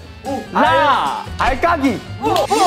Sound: stone flicking

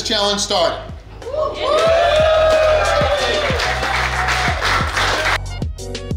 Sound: crowd Cheering

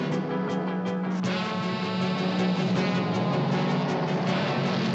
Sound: engine roaring

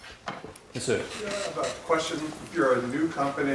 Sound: voiceover

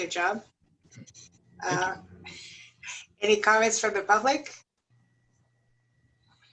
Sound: laughter

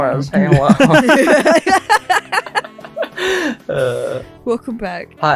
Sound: everyone cackles

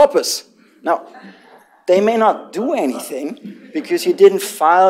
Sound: laughter

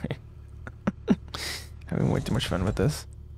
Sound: laughter

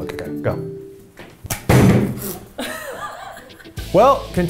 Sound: soda thuds

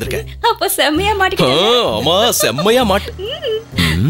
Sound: laughs

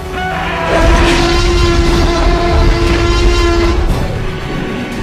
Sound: T-rex roars

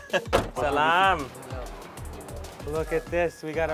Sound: speaks foreign

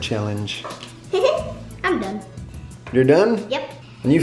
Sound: laughs

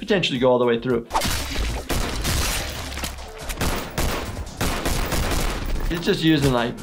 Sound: blade slashing; gun shots

